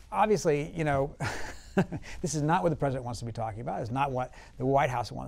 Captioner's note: laughs